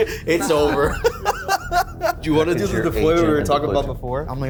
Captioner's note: laughs